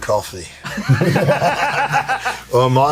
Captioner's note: laughter